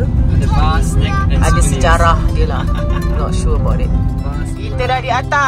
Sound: speaking German

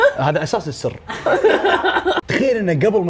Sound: all laughing

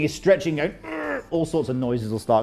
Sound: groans

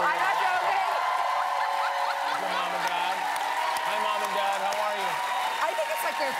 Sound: cheers and applause

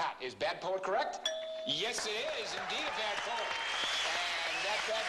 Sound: ding

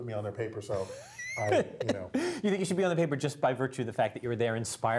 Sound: laugh

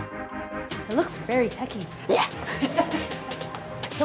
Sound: laughs

